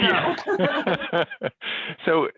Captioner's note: both laugh